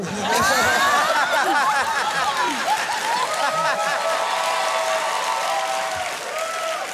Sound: laughter, cheering

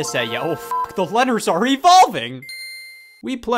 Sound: beep

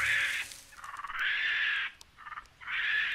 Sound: monkey screeches

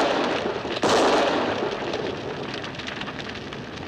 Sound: gunshot

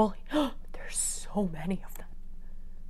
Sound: gasp; whispered

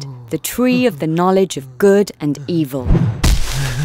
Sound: none

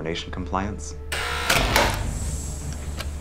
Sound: door unlocks

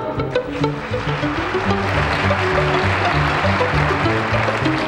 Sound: audience applauds

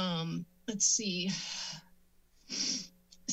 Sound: sniff

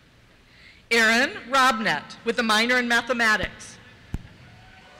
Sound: cheers

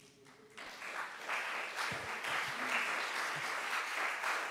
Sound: audience applause

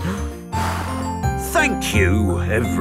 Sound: blows

